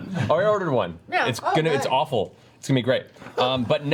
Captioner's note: laughs